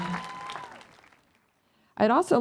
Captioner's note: applause